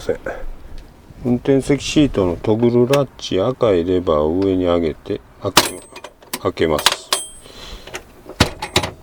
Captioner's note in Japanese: カチャカチャ